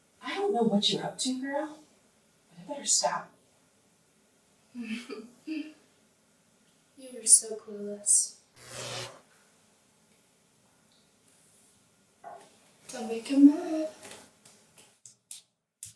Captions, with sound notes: - I don't know what you're up to, girl, but it better stop. [Hannah chuckles] - You are so clueless. [lights crackle] Don't make him mad!